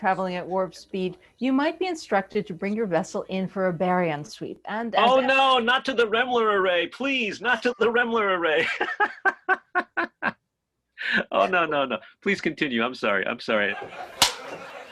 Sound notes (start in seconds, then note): 10.0 laughing